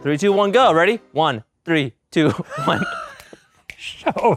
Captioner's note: wheezes; snaps